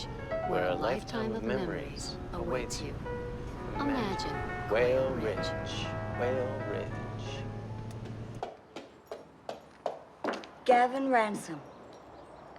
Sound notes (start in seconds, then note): 7.6 footsteps approaching